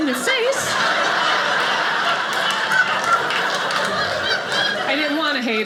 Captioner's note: audience laughing